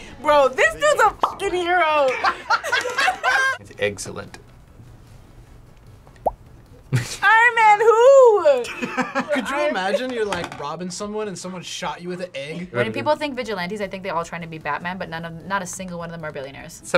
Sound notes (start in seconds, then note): 2.1 laughs; 6.7 chuckles; 8.7 laughs